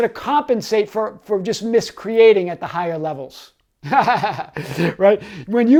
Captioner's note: laughs